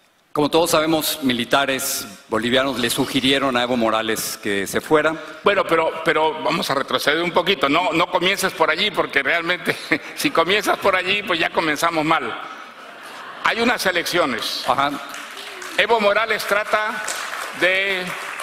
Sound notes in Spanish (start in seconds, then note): 14.6 risas